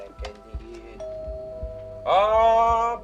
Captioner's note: doorbell dings